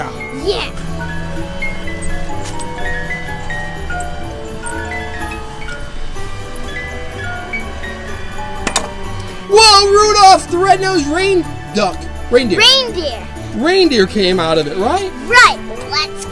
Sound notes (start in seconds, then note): 2.1 holiday music; 8.6 pop